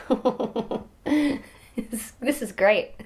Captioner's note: laughs